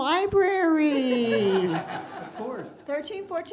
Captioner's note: laughing